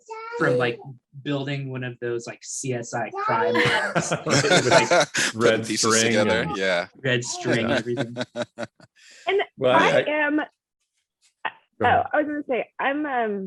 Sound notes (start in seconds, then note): 3.4 laughs